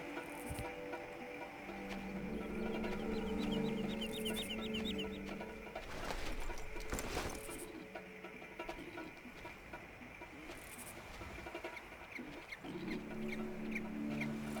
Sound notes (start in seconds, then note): 2.1 tense music; 4.6 birds chirping; 9.7 tense music